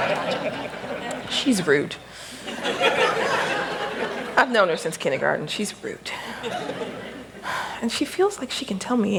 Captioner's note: laughter; laughter